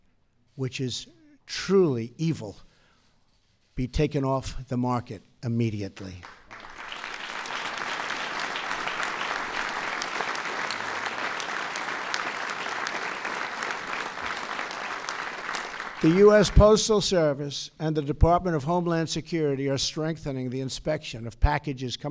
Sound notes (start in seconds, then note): 6.0 applause